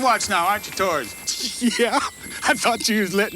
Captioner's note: chuckles